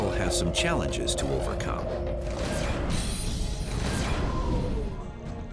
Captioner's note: space fight sound